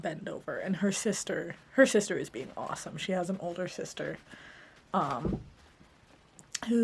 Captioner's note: thump